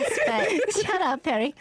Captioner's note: giggle